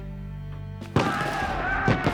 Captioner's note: men shouting